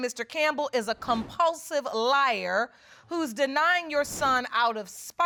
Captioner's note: none